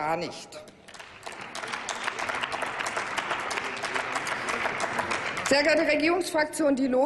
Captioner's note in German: Applaus